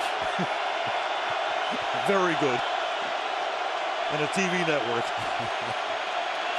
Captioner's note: laughs